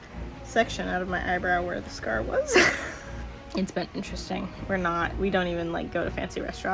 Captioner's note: laugh